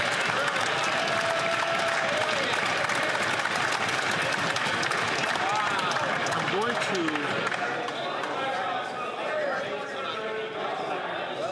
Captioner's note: some Applause